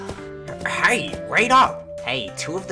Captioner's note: sighs